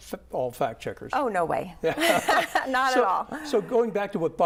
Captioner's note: laughs